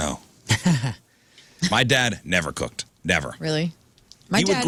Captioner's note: laughing